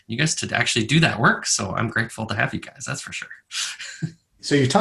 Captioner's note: laughs